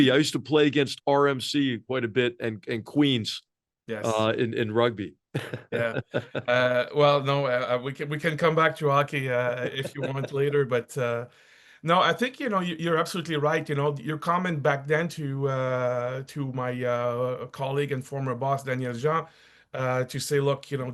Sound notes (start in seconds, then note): 5.3 laugh